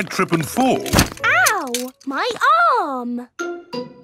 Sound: thumps

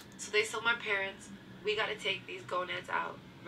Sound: audio from laptop

